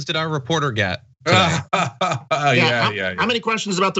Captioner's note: laugh